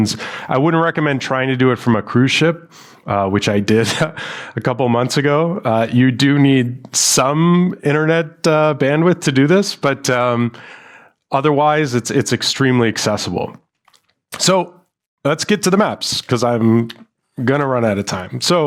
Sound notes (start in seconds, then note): 3.7 chuckles